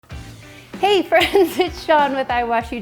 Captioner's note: laughs